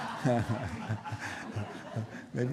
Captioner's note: laughter